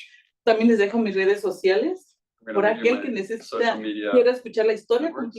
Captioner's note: speaking Spanish